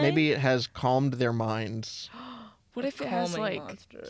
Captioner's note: gasp